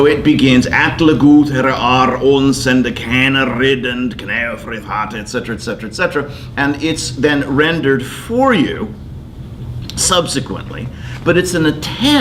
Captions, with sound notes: So it begins. (speaking in foreign language) Et cetera, et cetera, et cetera, and it's then rendered for you subsequently, but it's an attempt to tell